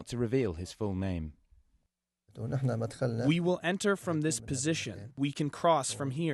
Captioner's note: through translator